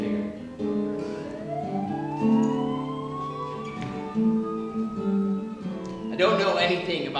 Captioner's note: siren in background